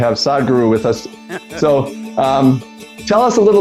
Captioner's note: laughs